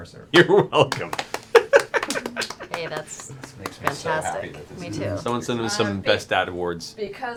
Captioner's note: laughs